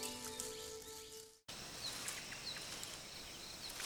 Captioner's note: birds chirping